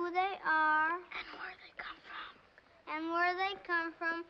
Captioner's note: whispers